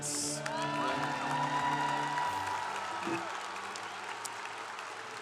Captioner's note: congregation applauding